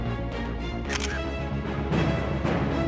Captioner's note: camera clicks